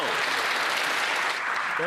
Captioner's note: some Applause